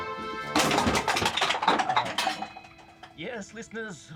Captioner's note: objects clank